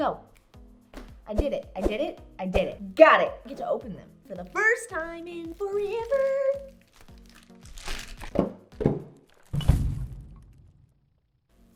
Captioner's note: crash Sound